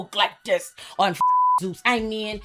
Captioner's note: beep